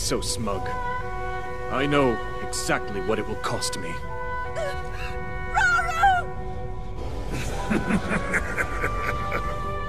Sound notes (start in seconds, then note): 4.9 groans; 7.4 laughs